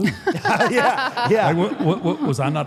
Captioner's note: audience laughs